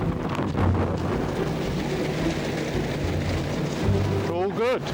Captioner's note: uplifting instrumental music; wind swooshing; lifeboat engine whirring